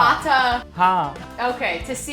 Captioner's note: speaking in Hindi